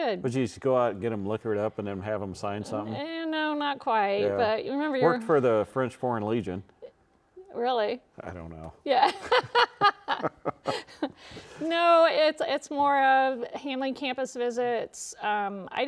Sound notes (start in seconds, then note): 9.1 laughs; 9.1 chuckles